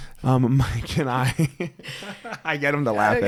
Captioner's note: laughs